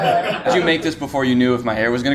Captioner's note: all laughing